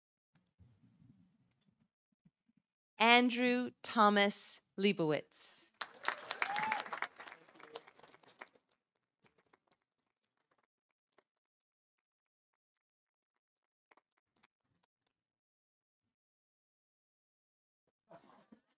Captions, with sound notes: Andrew Thomas Liebowitz. -(audience cheering) -(audience applauding)